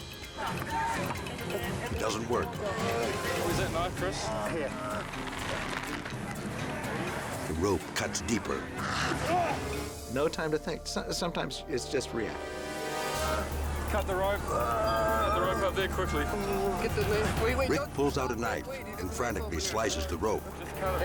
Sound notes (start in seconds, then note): 5.4 groaning; 14.5 groaning